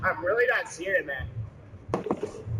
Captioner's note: thud